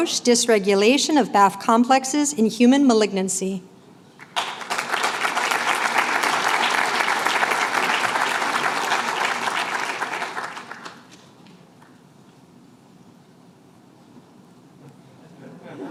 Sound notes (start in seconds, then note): 4.2 applause